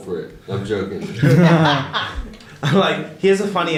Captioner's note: laughter